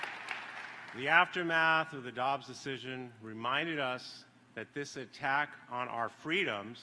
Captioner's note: applause